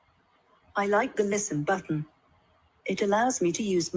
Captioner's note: female British Voice